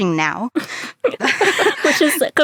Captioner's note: laughter